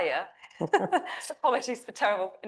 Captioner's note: laughing